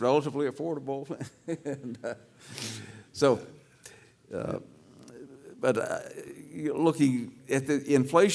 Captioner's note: laugh